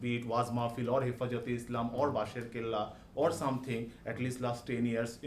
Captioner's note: speaking orienting language